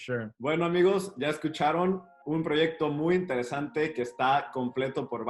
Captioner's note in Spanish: habla en español